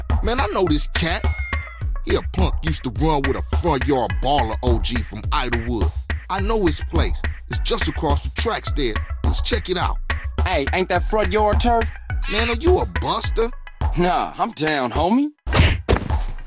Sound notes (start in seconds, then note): 1.0 cat noise; 12.2 monke noise